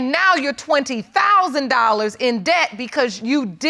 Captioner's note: none